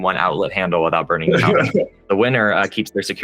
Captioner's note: laughter